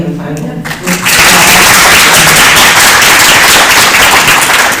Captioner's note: applause